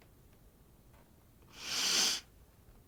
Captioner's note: breathes deeply